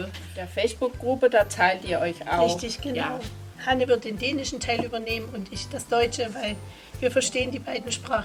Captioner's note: in German